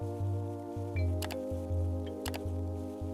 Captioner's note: keyboard clicking